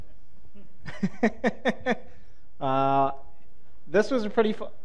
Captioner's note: panelist laughs